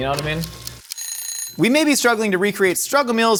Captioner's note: timer ticking; timer ringing